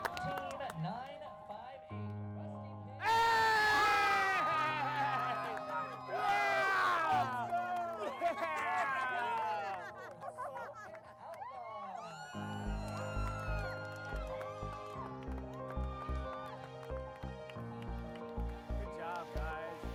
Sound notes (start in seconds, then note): 3.0 group cheers; 3.3 yelling; 11.2 cheering